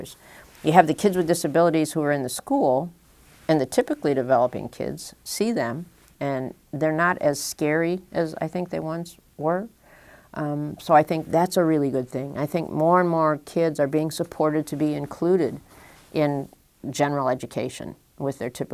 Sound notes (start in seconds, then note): none